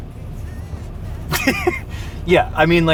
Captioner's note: laughing